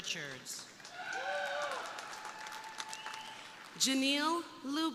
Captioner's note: crowd applauding; crowd cheering